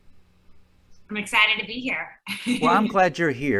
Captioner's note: chuckling